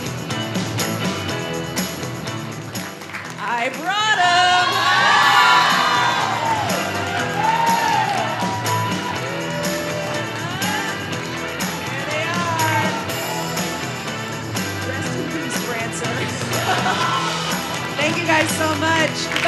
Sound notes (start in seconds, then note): 5.9 audience cheering; 13.5 upbeat music; 17.1 laughs